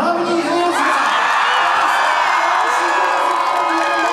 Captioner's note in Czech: cheering